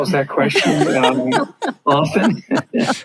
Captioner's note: laughing; laughs